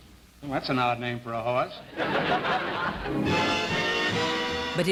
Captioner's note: laughter